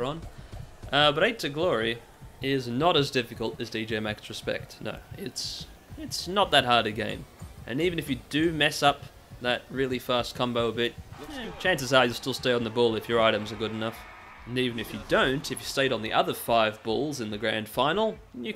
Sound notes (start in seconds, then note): 11.1 shrug noise